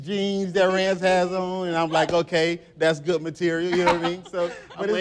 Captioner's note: laughs